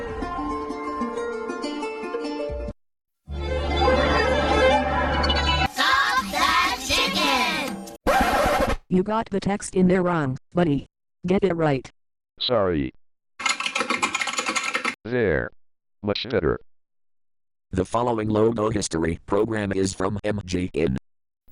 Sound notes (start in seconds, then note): 5.3 record scratches; 13.4 keyboard keys clicking